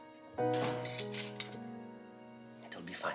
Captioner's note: door slamming